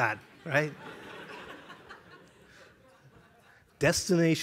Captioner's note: laughter